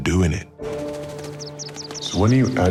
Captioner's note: chirping